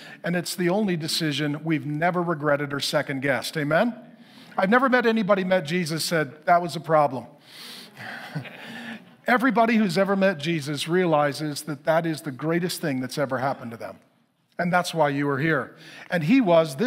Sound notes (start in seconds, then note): 7.9 congregation laughing